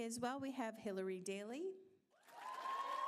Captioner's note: applause